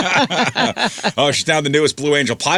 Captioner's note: laughing